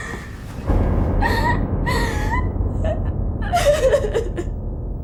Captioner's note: Ira cries